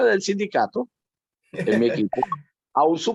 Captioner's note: laugh